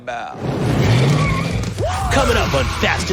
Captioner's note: tires screech